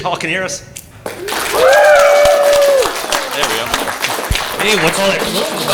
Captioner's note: louder Applause